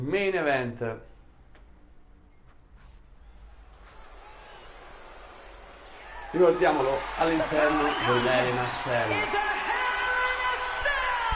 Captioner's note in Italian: Applauso